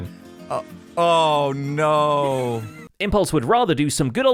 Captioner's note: laughs